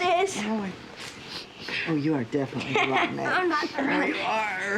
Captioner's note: sniffs; laughs